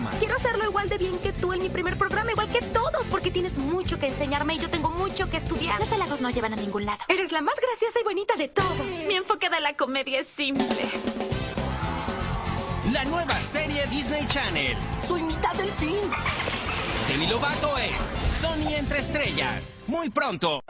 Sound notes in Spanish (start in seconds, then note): 11.4 sonidos de júbilo; 16.1 sonidos de delfín con agua chorreando